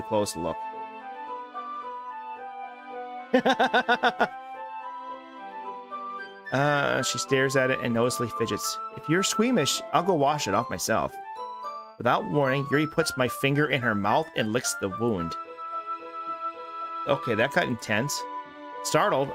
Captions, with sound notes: wound a close look. (laughs) She stares at it and noticeably fidgets. If you're squeamish, I'll go wash it off myself. Without warning, Yuri puts my finger in her mouth and licks the wound. Okay, that got intense.